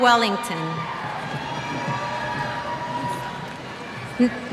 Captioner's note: cheers